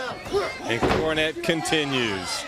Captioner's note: crowd chatter